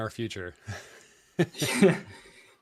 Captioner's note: laughter